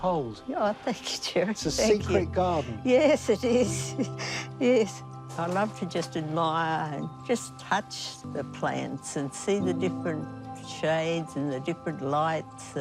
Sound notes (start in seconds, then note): 3.5 chuckles